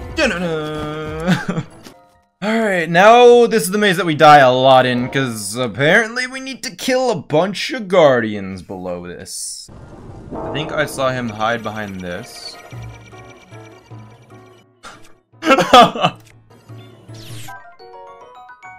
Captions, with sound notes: Alright, now this is the maze that we die a lot in cuz apparently we need to kill a bunch of Guardians below this I think I saw him hide behind this [laughs]